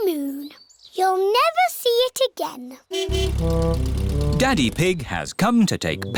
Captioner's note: horn honking